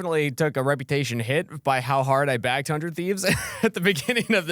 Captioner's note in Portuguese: risos